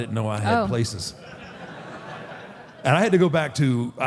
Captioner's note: audience laughs